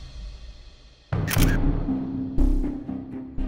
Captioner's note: camera clicks